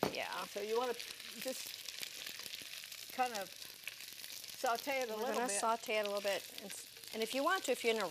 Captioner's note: sizzling sounds